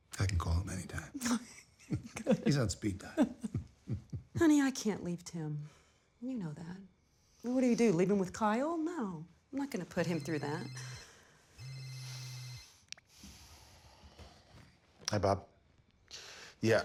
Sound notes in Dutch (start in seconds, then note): 11.5 telefoon gaat